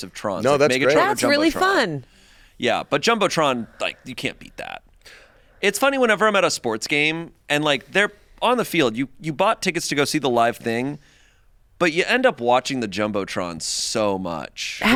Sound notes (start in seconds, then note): none